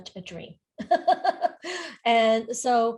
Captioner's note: laughs